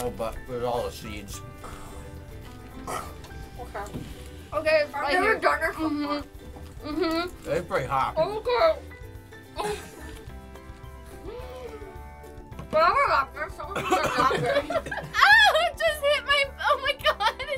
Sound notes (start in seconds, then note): 8.5 whimpering; 13.7 laughter